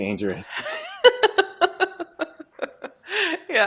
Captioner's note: laughter